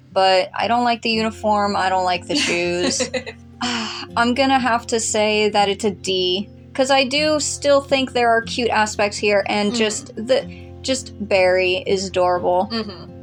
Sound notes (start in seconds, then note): 2.2 laugh; 3.7 sigh